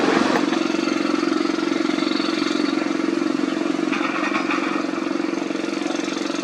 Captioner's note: excavator Rumble